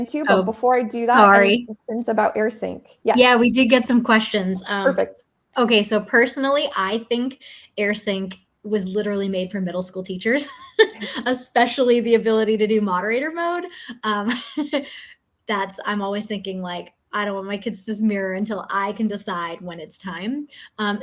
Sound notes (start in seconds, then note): 10.6 chuckles; 14.9 chuckles